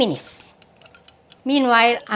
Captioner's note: time ticking